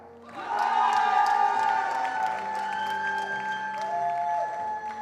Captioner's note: attendees cheering and applauding